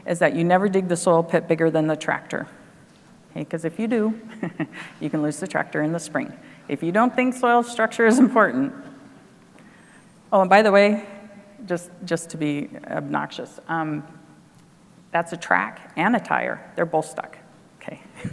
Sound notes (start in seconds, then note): 4.2 laughs